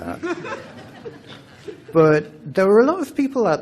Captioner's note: laughter